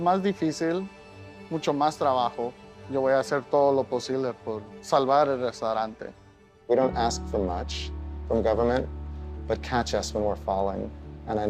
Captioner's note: speaking in native tongue